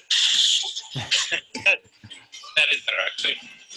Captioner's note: both laughing